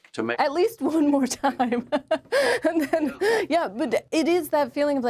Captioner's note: laughs